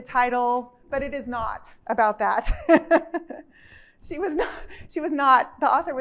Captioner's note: chuckles